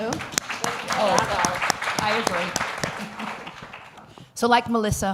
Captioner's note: applause